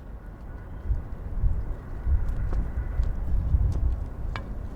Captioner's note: wind whistling